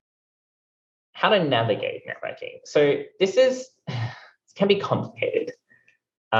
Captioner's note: sighs